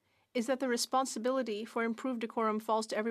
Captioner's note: speaking french